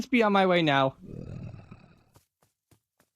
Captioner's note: luzeleon growls